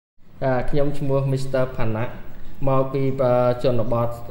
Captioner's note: Audio in Khmer